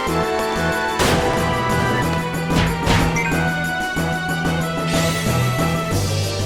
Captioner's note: tense music; gunshots echoing